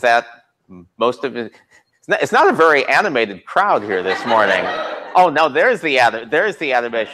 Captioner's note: laughter